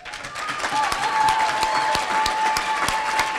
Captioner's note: cheering